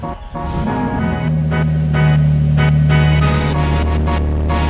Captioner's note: bright upbeat music; car engine revving